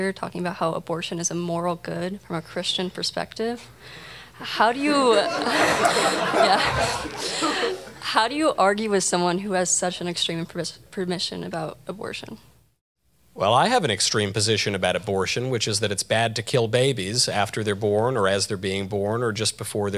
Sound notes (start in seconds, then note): 4.8 audience laughter